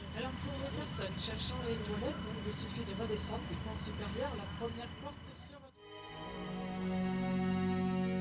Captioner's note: french